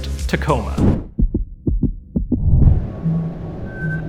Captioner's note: heartbeat